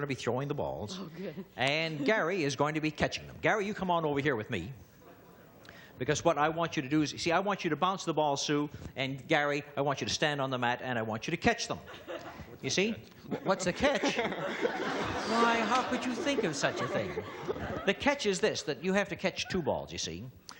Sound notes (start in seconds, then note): 13.2 laughter